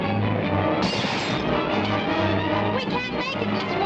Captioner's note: glass crashes